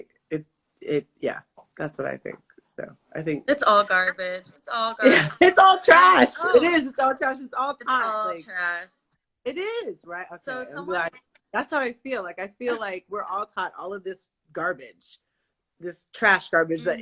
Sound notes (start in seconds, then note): 3.5 laughs